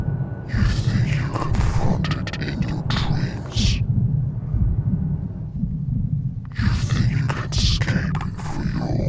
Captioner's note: voice echoed